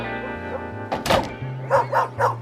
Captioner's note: barking